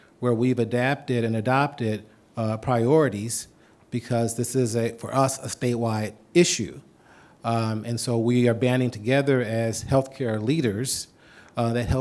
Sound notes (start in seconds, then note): none